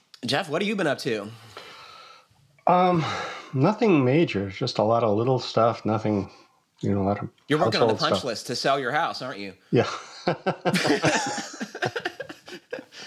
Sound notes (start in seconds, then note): 9.8 laughs; 9.8 laughter